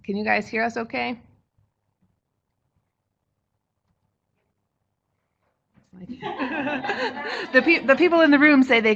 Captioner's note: no sound. Waiting on response from webinar participants in chat box